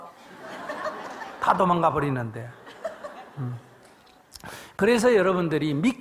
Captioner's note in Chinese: 听众 笑